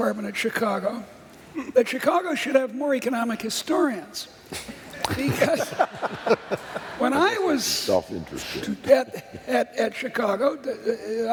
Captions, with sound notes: OF THE ECONOMICS DEPARTMENT AT CHICAGO, THAT CHICAGO SHOULD HAVE MORE ECONOMIC HISTORIANS. [ LAUGHTER ] BECAUSE WHEN I WAS -- >> THERE'S A SELF INTEREST HERE.